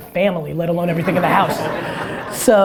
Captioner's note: audience laughter